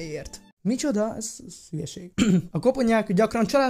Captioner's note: clears throat